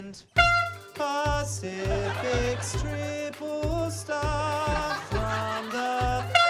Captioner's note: toot!